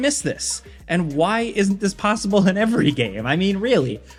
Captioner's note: laughing